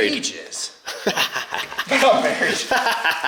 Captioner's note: laughing